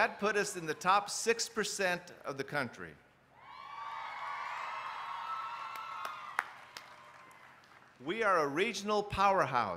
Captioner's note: applause